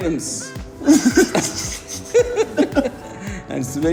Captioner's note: laughs